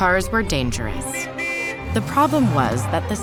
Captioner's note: car horn